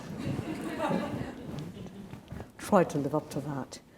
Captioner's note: audience laughs